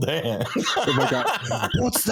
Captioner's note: laughing